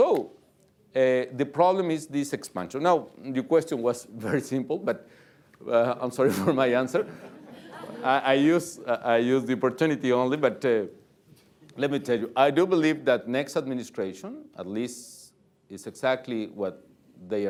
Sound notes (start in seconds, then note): 6.9 laughter; 7.0 chuckles